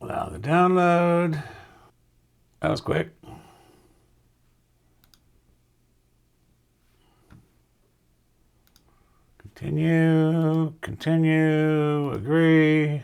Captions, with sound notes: Now the download. That was quick. (keyboard clicking) Continue, continue, agree.